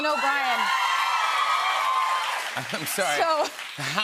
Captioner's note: cheers and applause